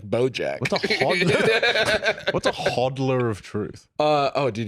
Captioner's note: both laugh